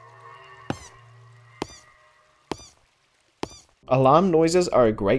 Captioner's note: squeaky footsteps